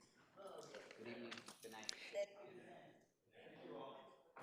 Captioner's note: crowd chattering